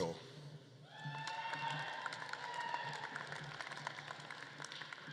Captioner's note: audience claps and cheers